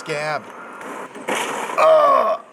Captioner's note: metal crunches